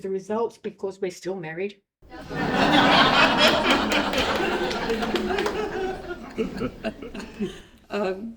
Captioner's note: laughter